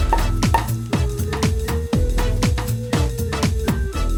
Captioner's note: cork popping